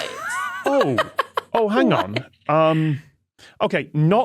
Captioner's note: laughs